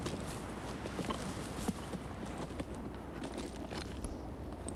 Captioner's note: wind howling